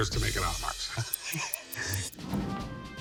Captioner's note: chuckles